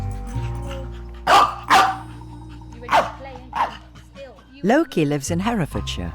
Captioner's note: dog barking